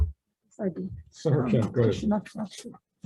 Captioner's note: chuckles